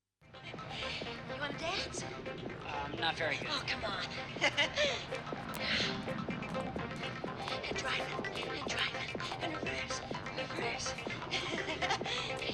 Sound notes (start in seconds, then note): 0.2 dance music playing; 4.5 laughs; 11.2 Chiana laughs